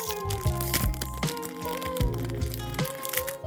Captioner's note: rustle rustle